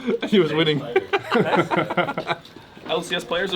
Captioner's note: laughs